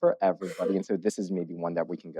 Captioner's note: coughs